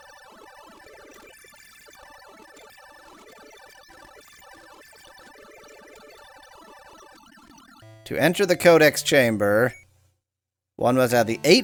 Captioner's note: awkward silence